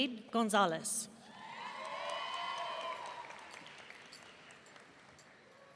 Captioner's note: audience cheering